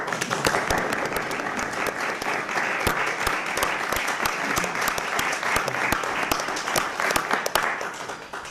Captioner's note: clapping